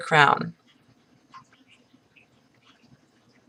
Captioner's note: pause